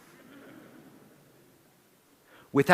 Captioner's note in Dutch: Gelach